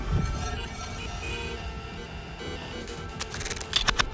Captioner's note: electronic beeping